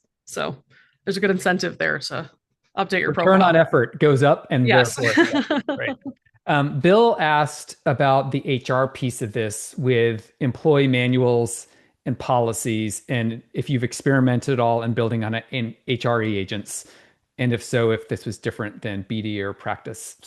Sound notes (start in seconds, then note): 4.8 laughs